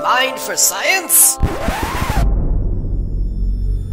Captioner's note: record scratching noise